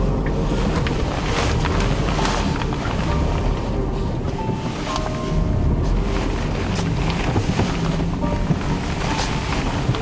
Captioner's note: car Sound